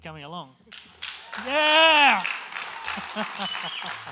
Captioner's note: applause